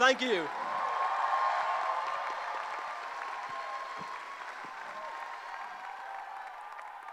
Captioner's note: applause